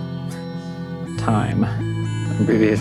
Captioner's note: laughs